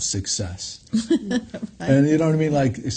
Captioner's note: laughs